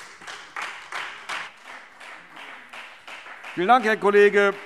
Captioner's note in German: Beifall Freie Demokraten